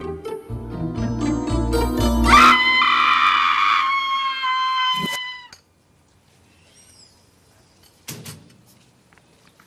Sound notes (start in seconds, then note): 2.2 screams louder